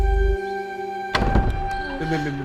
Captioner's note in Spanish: Sonido al abrir la puerta